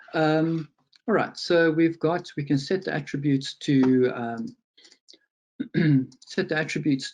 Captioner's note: clears throat